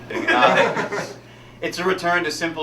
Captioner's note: all laughing